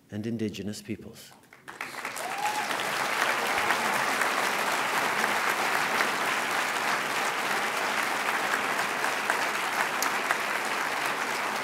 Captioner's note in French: Applaudissements